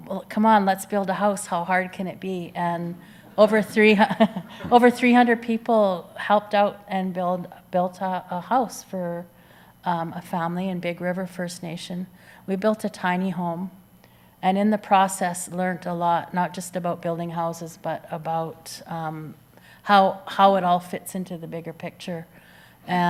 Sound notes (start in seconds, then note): 3.3 audience chuckles